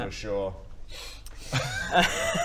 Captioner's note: sniff; laughs